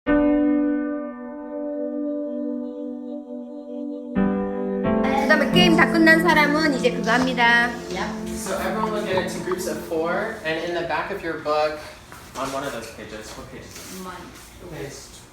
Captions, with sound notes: (dramatic piano music) (child speaking in Korean) - So everyone get into groups of four, and in the back of your book on one of those pages, what page is it, page 29?